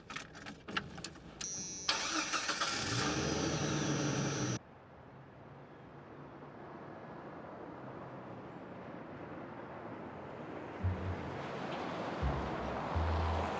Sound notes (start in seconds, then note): 1.4 car starting